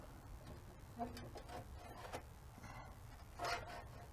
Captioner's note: none